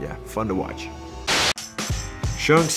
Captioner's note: upbeat music; static crackles